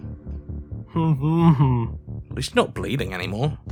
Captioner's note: whimpers